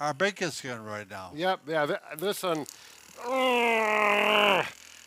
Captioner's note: grunting